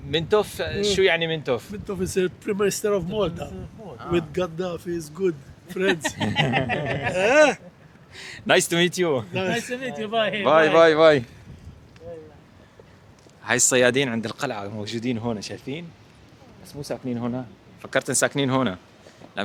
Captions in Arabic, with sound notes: منتوف شو يعني منتوفي [ضحك] باي باي اي هي الصيادين عند القلعه موجودين هون شايفين بس مو ساكنين هنا فكرتن ساكنين هنا